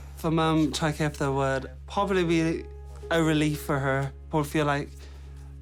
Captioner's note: none